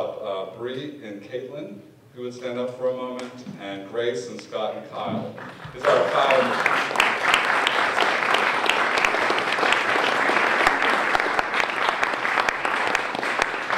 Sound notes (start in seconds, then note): 5.3 applause